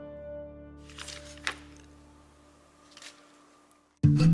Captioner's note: paper unfolds